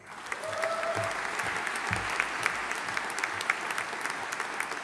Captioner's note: audience applauding